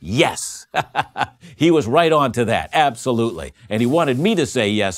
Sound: laughing

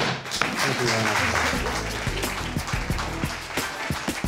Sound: audience clapping

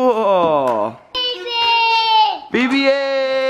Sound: shouts

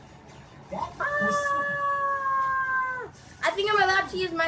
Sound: assistant screams

